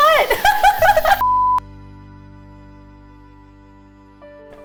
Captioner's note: laughing